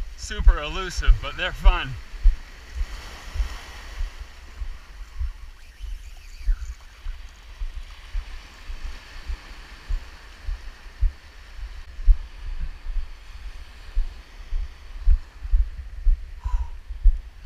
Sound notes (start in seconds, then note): 2.3 waves crashing; 5.4 line reeling; 8.3 waves crashing